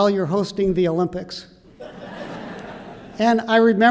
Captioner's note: laughter